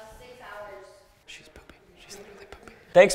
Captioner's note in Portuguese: Sussurra